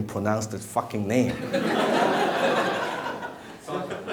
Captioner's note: laughing